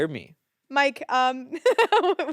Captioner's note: laughs